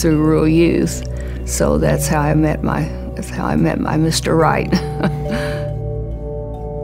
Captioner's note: laughter; soft Music